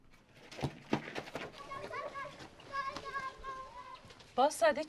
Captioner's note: kids palying